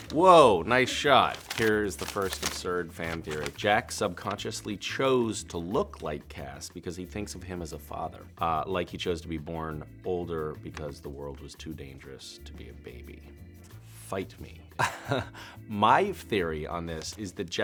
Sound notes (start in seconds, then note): 14.8 laughs